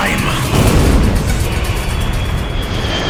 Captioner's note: explosion